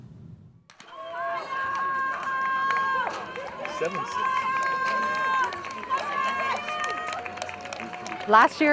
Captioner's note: sounds of cheering